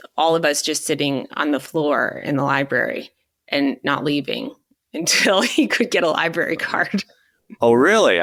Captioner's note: chuckling